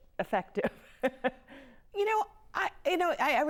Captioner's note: laughing